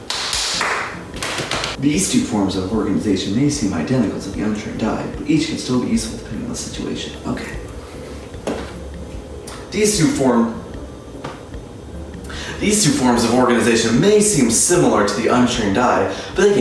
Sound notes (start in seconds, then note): 0.0 clapping; 0.0 knee slapping